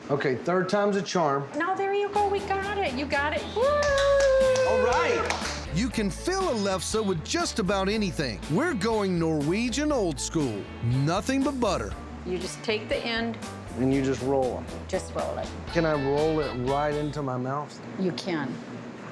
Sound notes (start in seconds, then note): 3.7 clapping